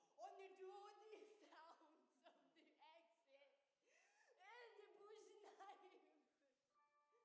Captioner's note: sobs